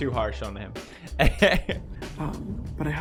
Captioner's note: chuckles